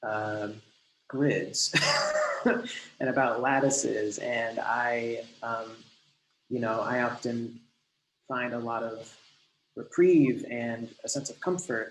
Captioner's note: laughs